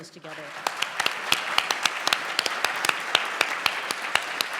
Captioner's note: applause